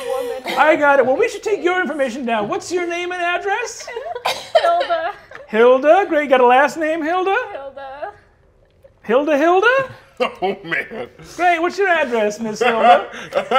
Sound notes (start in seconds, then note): 0.0 laughs; 3.5 players laughing; 9.9 laughs